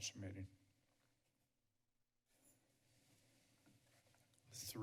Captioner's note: silence